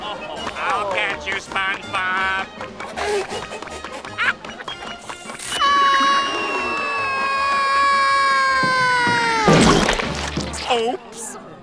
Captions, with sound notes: I'll get you, SpongeBob! [laughing] [screaming] Oops.